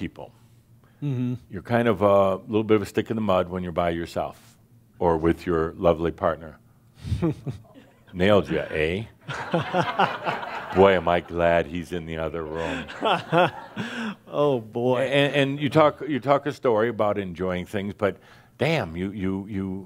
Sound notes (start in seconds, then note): 7.0 chuckles; 9.2 laughter; 12.4 chuckling